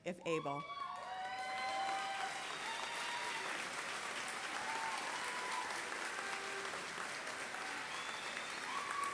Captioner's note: applause